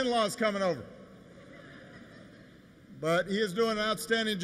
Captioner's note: laughter